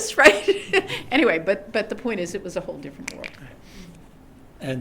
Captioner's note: laughter